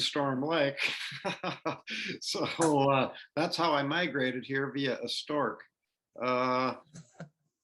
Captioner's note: laughter